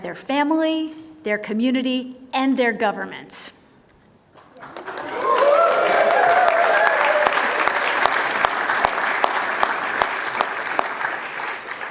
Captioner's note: applause